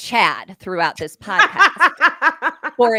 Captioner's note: laughing heartily